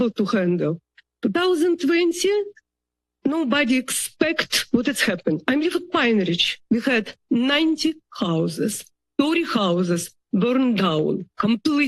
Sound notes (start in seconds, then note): none